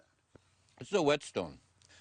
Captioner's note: voiceover